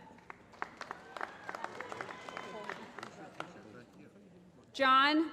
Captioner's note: applause